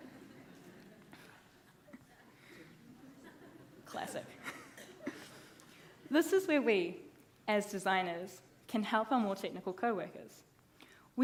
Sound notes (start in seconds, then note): 0.1 audience laughing; 2.8 laughs